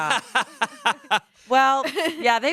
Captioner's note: laughs